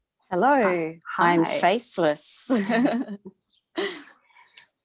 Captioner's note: laughs